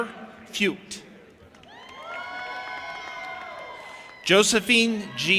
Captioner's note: audience applauding and cheering